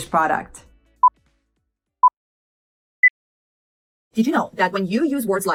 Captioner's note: countdown beeps